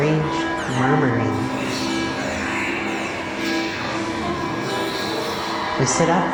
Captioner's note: strange murmuring